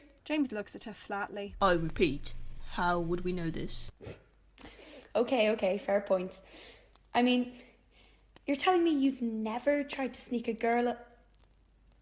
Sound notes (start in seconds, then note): 4.0 Marlene snorts